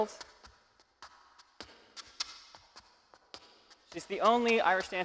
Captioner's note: shoes clacking